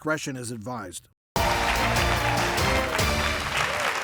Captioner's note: upbeat music; audience applauds